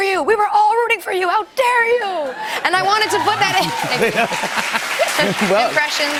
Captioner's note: applause